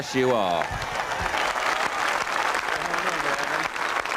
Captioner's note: crowd applauding